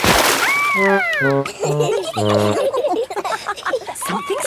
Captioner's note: all laughing